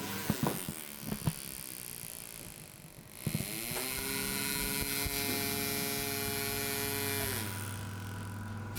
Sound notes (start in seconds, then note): 3.7 persistent whirring